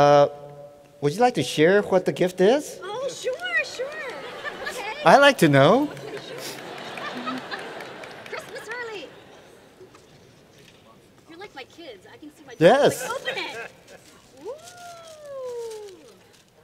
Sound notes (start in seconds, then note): 5.8 laughter